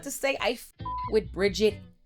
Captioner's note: beep